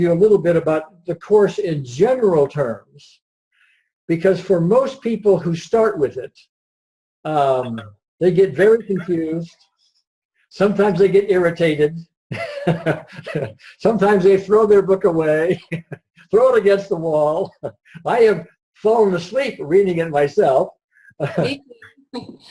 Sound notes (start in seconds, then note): 12.3 chuckles; 15.5 laughs; 21.7 laughs